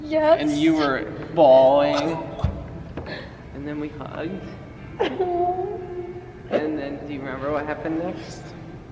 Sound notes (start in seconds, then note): 4.9 crying